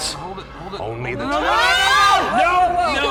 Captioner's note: simultaneous screaming